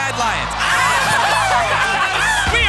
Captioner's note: cheering